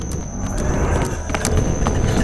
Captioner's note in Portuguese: Risadas sinistras